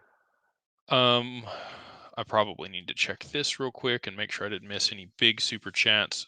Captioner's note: sighs